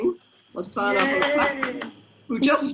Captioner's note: applauds